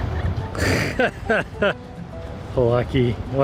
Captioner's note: both chuckling